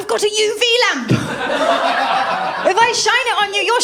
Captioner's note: laughter